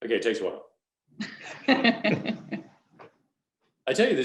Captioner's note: all laughing